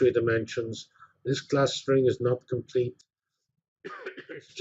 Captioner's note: cough